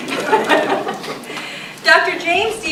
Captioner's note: audience laughing